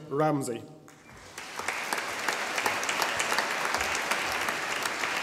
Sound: audience applauding

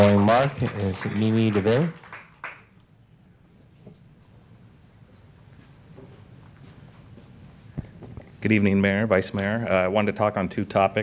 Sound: applause

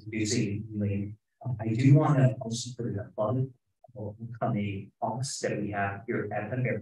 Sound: speaking faintly

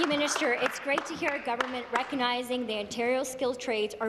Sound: applause

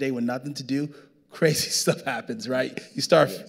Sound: laughing

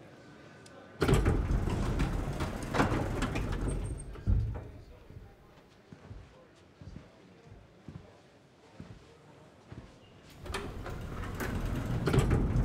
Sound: elevator doors opening

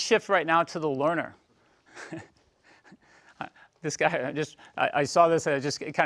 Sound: laugh

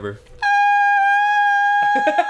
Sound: high pitched sound; Dan chuckles

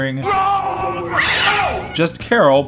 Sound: cat scratch

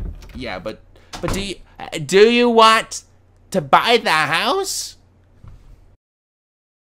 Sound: door slamming

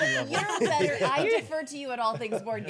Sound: laughing

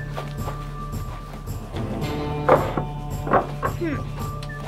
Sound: gate closing

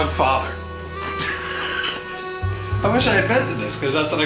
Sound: laughs

